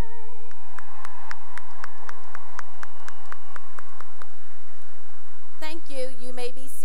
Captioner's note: cheering and applause